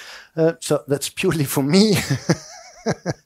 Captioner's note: laughs